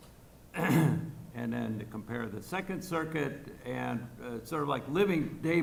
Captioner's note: clears throat